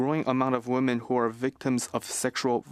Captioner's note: speaking French